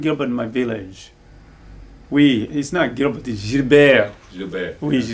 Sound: speaks in French

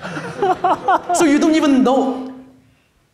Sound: laughing

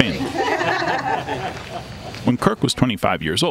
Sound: laughter

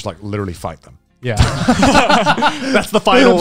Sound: everyone laughs

